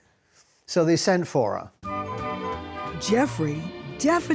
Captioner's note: in normal voice